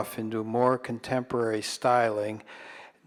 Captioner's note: none